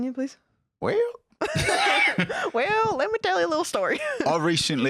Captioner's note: southern accent; cockney